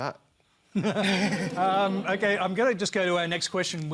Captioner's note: laughter